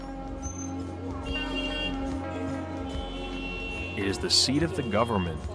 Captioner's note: horns honking